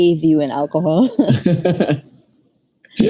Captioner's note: laughs